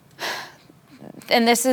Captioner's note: sighs